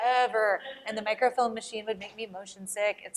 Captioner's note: laughter